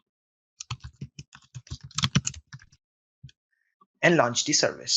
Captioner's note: keyboard clicks